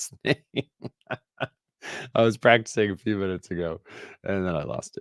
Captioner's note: laughs